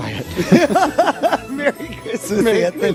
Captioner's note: laughing